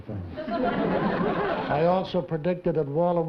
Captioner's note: laughter